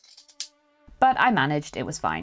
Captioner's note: scissors snipping